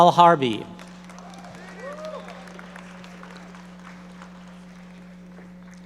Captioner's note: audience members applauding